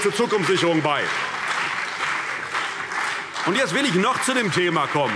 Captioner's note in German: Beifall CDU und BÜNDNIS 90/DIE GRÜNEN